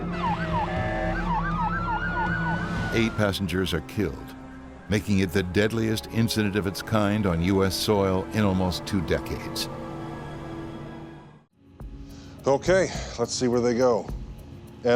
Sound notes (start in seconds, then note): 0.0 sirens; 9.3 sirens; 9.7 sinister music